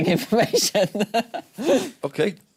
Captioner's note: laughing